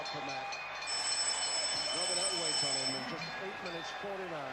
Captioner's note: doorbell rings